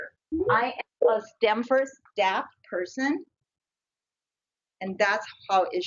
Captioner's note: audio warps